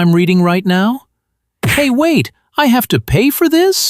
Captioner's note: thwack!